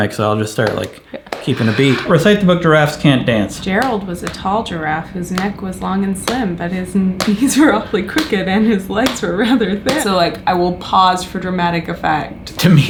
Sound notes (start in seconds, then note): 7.2 hand slaps; 8.2 chuckles